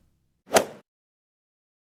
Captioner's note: swoosh